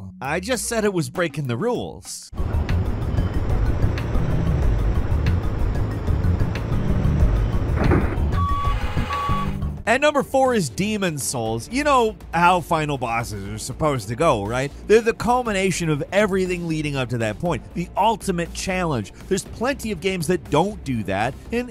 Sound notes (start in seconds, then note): 2.4 forklift engine revving; 8.5 forklift beeps